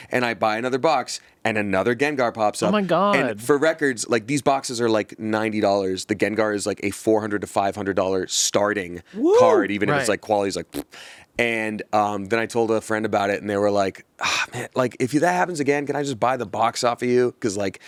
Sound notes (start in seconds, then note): 9.1 blows raspberry